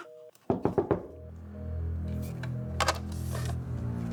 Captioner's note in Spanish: Toques en la puerta